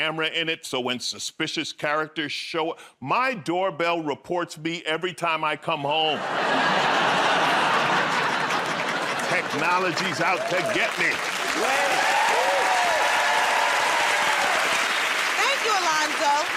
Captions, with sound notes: so when suspicious characters show up, my doorbell reports me every time I come home. [ Laughter ] Technology's out to get me. [ Cheers and applause ] -Thank you, Alonzo.